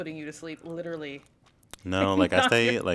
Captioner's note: laugh